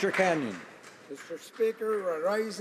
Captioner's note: applause